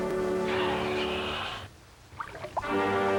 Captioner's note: roar